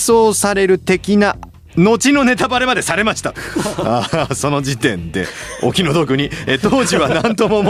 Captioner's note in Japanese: 笑い